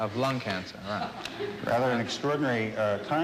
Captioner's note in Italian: risa del pubblico in sala, ndr